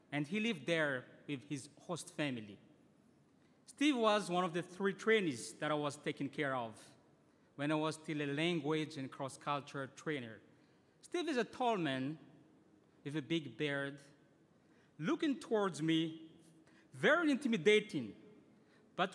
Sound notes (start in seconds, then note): none